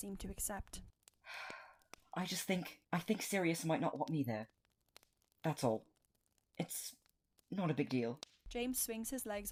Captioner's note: Remus sighs